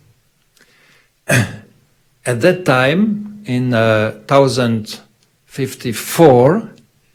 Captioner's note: clears throat